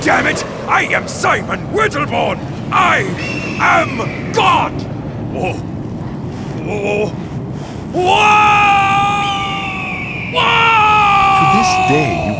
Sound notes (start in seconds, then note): 7.9 scream; 8.0 eagle screeching